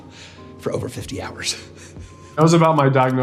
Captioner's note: man chuckling